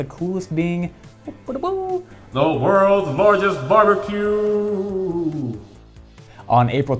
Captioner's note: in epic voice